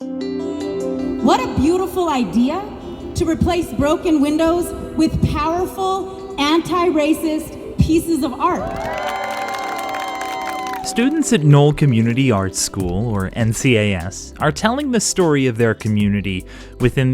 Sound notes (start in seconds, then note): 10.3 applause